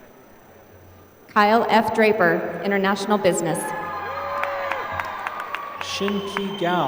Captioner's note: applause